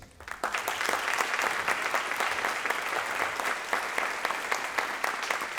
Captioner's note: applause